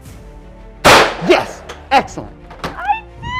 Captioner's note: gun firing